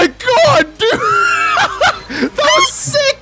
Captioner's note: wheeze